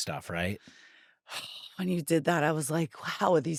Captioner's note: sighs